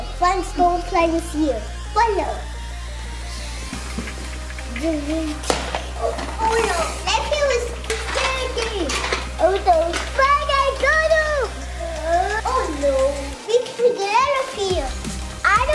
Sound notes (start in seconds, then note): 4.2 bubbles excitedly; 12.3 bright playful music